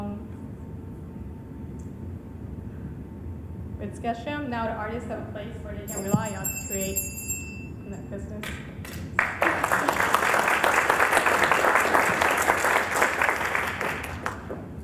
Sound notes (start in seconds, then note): 5.8 bell dinging; 8.8 applause